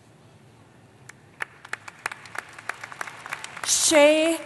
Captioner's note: applause